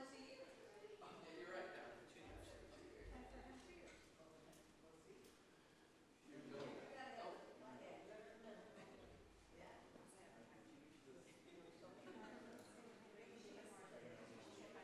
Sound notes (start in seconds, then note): 4.5 people chattering